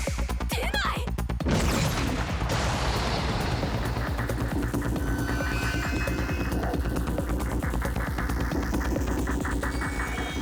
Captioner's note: Sounds of Jiji and Momo’s fight